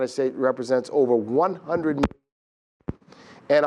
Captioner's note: mic cuts out